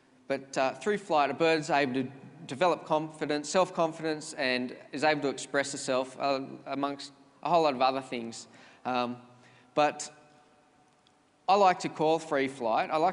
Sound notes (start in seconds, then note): none